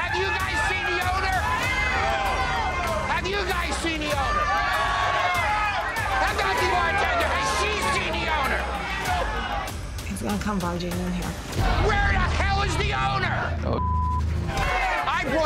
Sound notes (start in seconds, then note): 2.1 crowd; 4.8 crowd; 13.6 beep